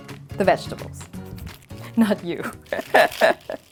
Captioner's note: laughs